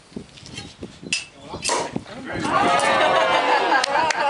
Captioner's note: pop - cheers and laughter; applause